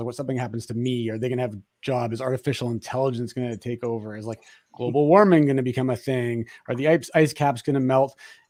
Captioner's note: none